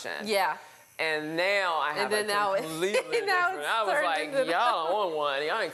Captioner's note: chattering